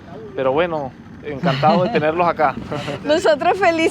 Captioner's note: laugh